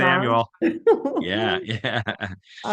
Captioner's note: laughs